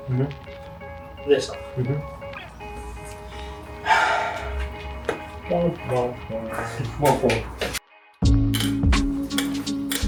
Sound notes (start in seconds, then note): 3.8 big sigh